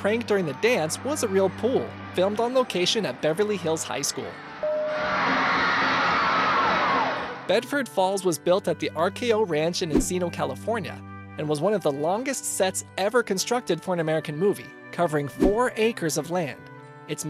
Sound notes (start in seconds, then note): 4.9 screaming